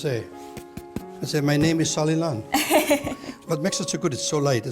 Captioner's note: laughing